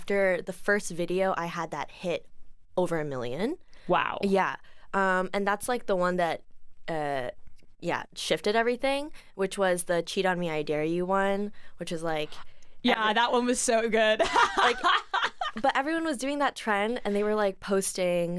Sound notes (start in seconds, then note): 14.2 laughs